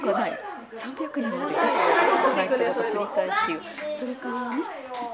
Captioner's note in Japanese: ざわつき